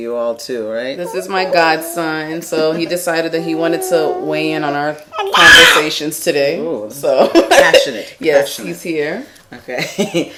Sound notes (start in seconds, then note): 4.9 babbling